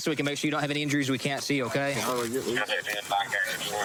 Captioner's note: scissors cutting